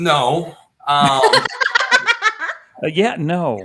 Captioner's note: laughing